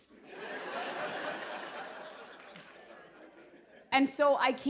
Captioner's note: laughter